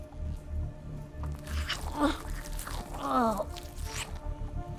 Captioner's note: Berta grunting